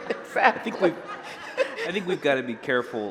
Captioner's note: laughter